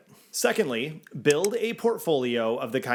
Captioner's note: graphics click